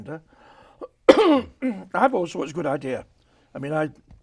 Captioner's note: coughs